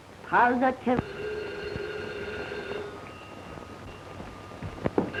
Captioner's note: phone ringing